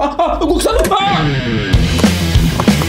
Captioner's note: background rock music; screaming